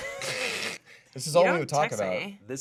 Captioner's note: pair laughing